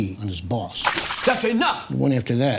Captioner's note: splash